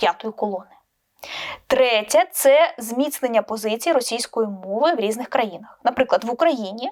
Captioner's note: russian language